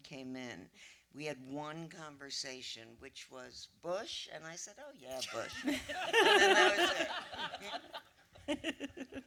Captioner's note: laughter